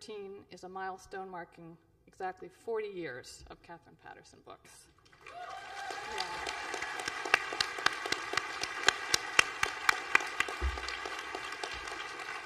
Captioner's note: applause